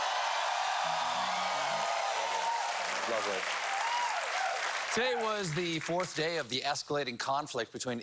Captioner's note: cheers and applause